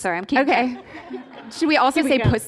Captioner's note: laughter